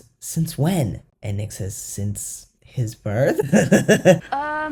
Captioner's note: laugh